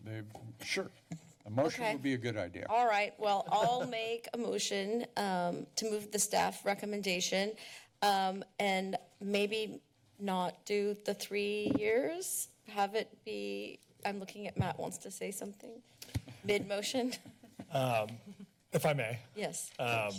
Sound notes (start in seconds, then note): 17.3 laugh